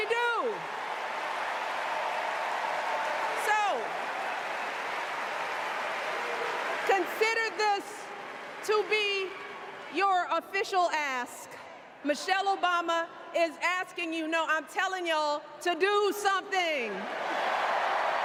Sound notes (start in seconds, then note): 4.7 cheers and applause